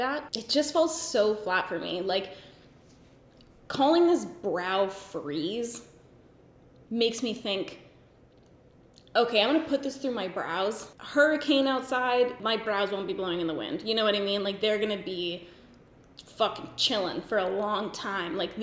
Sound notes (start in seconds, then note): none